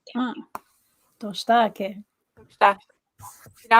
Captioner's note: speaking Dakota